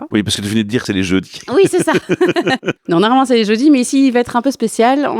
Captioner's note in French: Rires